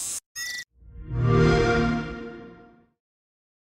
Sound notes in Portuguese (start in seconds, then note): 0.8 xbox sound